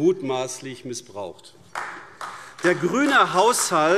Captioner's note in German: Beifall AfD